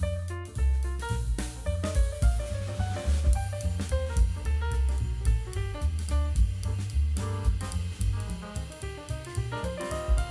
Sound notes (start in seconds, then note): none